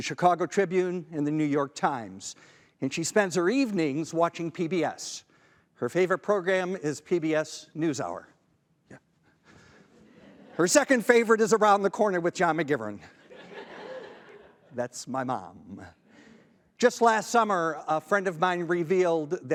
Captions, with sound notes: the Chicago Tribune, and the New York Times, and she spends her evenings watching PBS. Her favorite program is PBS News Hour. Her second favorite is Around the Corner with John McGivern. (audience laughing) That's my mom. Just last summer, a friend of mine revealed